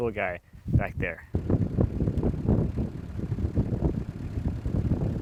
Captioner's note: engine roaring